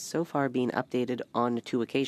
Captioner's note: speaking French